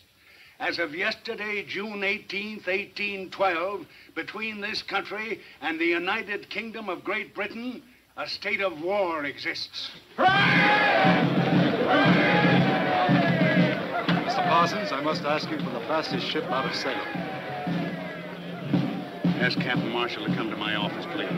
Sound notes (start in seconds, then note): 9.7 crowd cheering; 9.7 military drum music